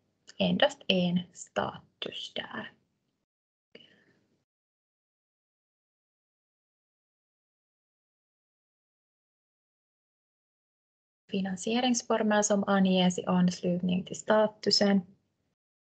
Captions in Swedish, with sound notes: Endast en status där. [Tystnad] Finansieringsformer som anges i anslutning till statusen.